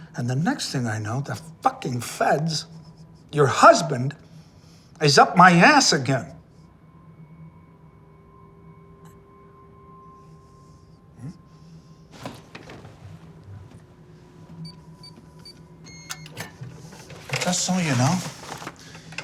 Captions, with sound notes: and the next thing I know, the fucking Feds, your husband, is up my ass again! (Wendy stammers) Mm? (safe beeping) Just so you know,